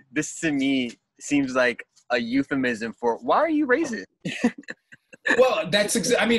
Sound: laughs

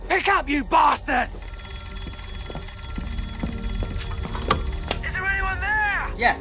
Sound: phone ringing

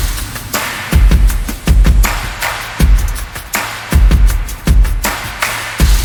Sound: applause

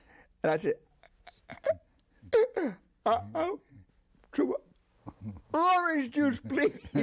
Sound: chuckles; chuckles

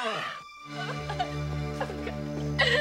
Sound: sobbing

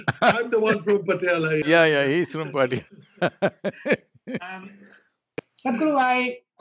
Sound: laughter; laughs; Sadhguru laughs

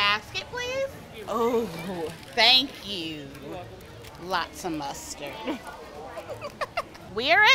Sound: laughs

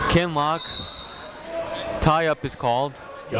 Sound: whistle tweeting

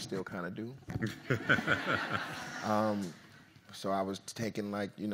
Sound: audience laughs

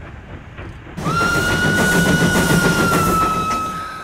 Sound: train whistle blows

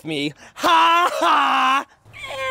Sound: laughs; cries

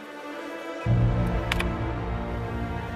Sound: typing

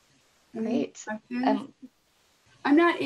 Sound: both chatters

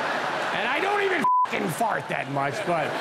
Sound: audience laughing; beep

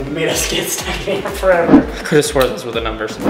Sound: laughs

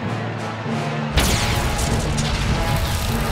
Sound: thundering

